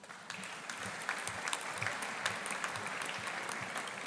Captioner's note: audience applauding